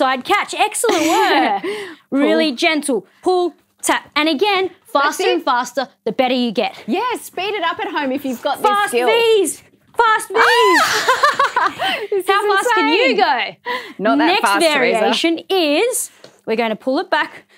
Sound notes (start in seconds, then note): 10.4 laughs